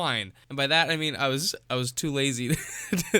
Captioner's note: wheeze